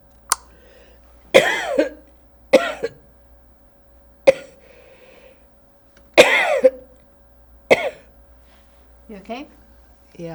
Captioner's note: coughing